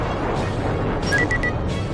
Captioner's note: com beep